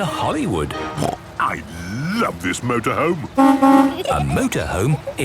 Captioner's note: honking